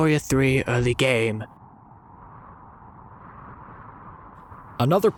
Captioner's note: wind sfx